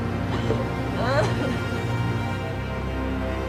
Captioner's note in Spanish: sollozos